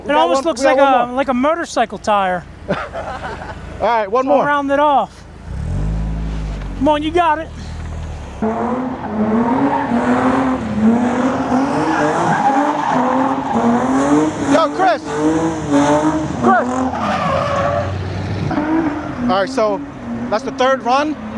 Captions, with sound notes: - It almost looks like a motorcycle tire. - All right, one more. - Round it off. Come on, you got it. (engine revving) - Yo, Chris. - Chris. (engine revving) - All right, so that's the third run.